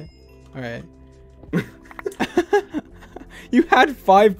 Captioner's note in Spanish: risas